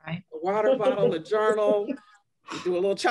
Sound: laughter

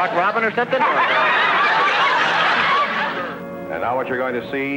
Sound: loud laughing

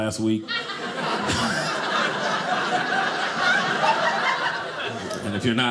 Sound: audience laughing

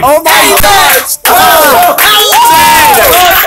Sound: applause

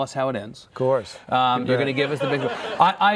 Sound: laughing

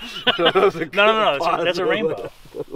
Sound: laughing

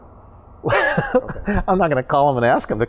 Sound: chuckling

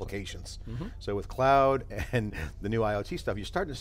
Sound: chuckles

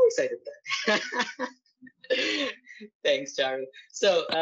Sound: laughs

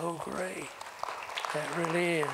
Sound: applause

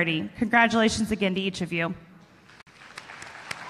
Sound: applause

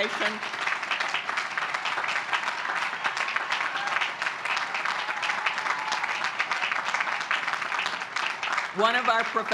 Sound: applause

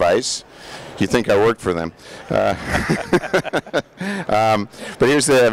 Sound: laughing

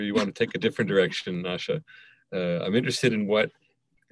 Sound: laughing

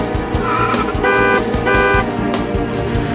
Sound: tires screeching; car honking

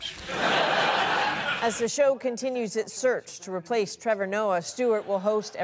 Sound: laughter

